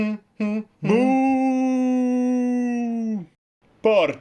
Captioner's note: booooooo!; humming